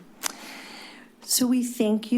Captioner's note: clicks tongue